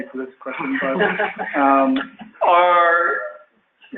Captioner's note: laughing